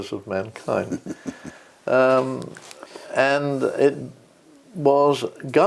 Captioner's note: laugh